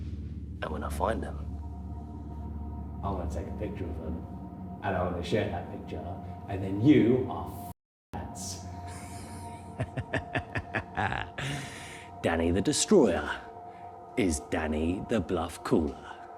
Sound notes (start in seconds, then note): 8.8 Danny laughs